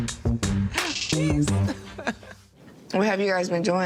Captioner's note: laughs